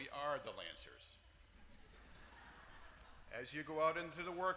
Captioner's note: laugh